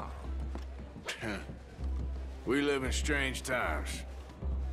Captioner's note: chuckles